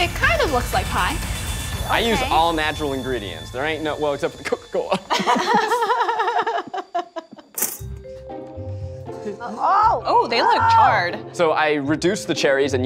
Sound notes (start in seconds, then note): 5.1 laughing